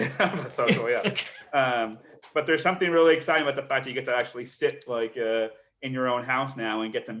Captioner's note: laughs